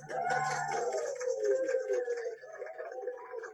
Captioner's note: applause